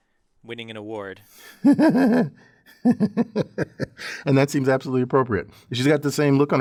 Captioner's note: laugh